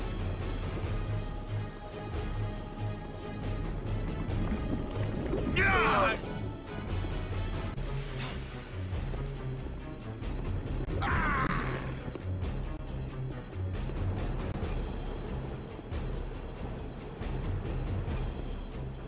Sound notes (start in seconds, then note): 5.6 screaming; 6.3 dramatic music